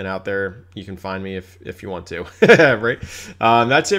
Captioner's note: laughs